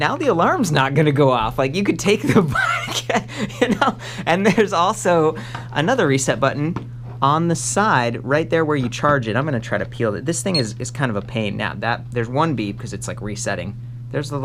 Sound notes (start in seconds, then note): 2.2 both laugh